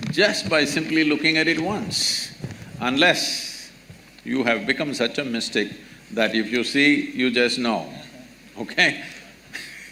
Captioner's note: laughs